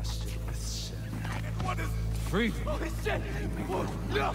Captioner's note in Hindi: चीखें, चिल्लाहट